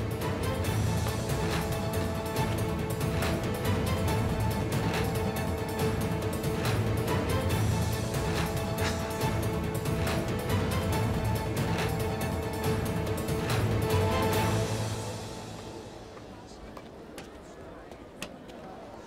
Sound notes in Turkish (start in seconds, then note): 0.2 Gerilim müziği; 8.7 Gülüyor